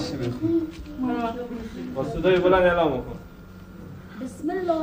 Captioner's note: speaking foreign language